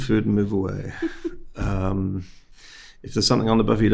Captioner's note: host laughing